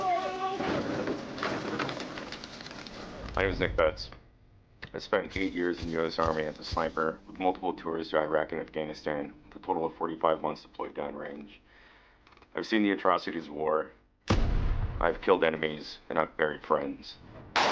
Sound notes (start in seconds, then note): 14.2 gun bangs